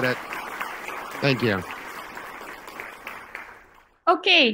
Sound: crowd clapping

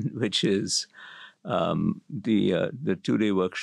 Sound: laugh

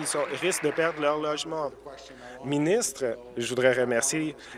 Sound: applause

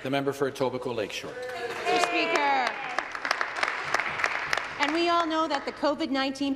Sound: some Applause

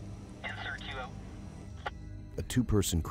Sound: voiceover

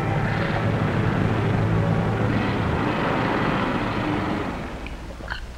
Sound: car engine starting

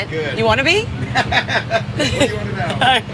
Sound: man laughs

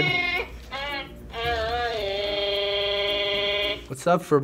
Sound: Furbacca hums theme

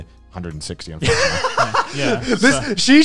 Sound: laughs

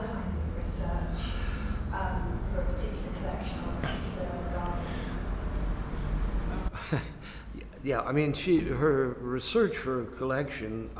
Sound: laughs

